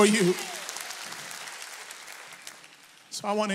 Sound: audience applauds

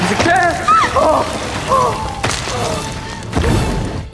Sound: screaming

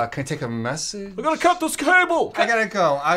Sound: loud voice

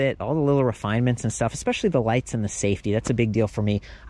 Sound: none

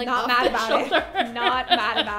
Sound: laughter

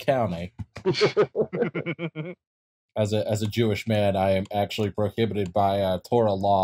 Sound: laughter

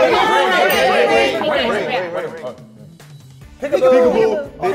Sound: bell dings

